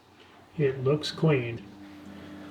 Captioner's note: voice offscreen